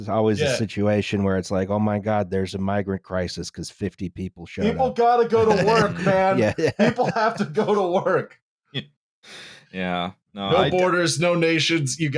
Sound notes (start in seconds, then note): 5.2 laughing